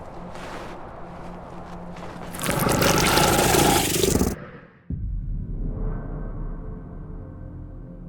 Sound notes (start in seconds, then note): 2.3 creature growling; 4.3 soft tense music